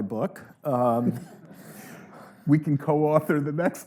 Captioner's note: audience laughing